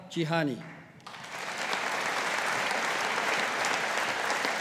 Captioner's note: audience applauding